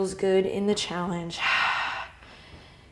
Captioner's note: exhale